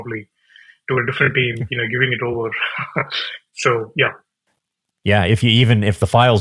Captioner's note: laughs